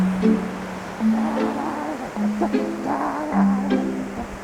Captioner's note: giggling